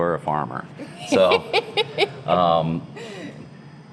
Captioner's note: laughing